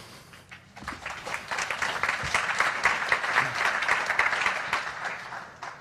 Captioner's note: audience applauding